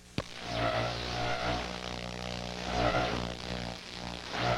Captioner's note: static buzzing